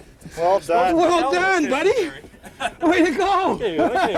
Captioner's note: laughing